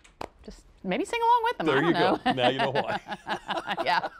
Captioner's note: laughter